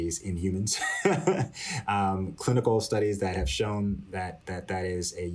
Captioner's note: laughter